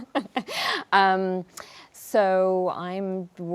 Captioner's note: laughs